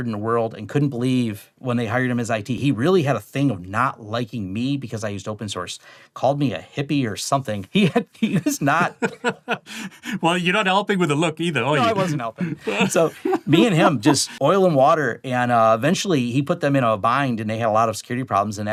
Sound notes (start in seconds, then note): 7.9 laughs